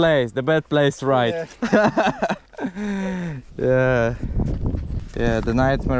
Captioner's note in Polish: śmiech